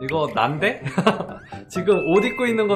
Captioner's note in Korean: 웃음